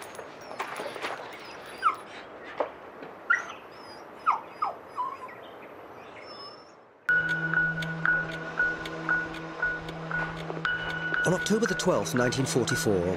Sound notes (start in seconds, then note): 1.7 dog whimpering; 7.1 light dramatic music